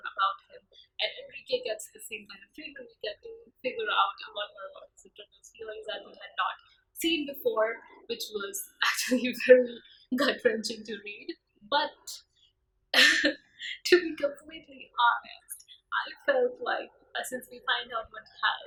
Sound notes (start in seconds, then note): 13.0 laughs